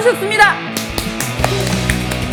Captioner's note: A round of applause